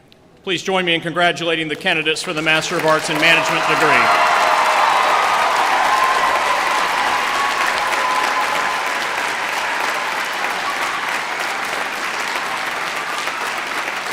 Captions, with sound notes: Please join me in congratulating the candidates for the Master of Arts in Management. [APPLAUSE]